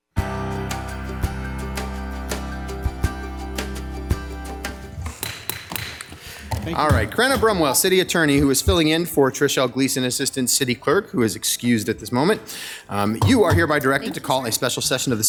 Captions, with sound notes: (bright music) (gavel taps) - Alright, Crenna Brumwell, City Attorney who is filling in for Trish Gleason, assistant city clerk who is excused at this moment. You are hereby directed to call a special session